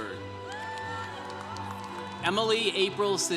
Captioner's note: congregation cheering